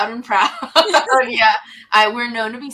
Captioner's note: laughs